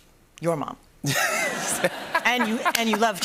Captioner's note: laughter